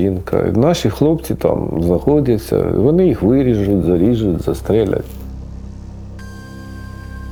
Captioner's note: Russian